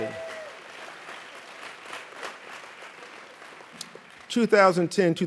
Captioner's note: audience applauds